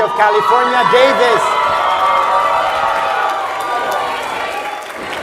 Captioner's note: audience cheers